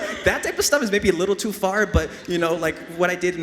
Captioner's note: audience laughs